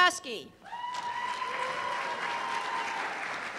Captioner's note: cheers and applause